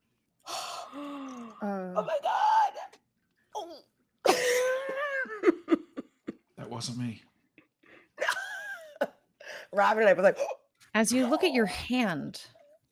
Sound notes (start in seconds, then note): 5.1 laughs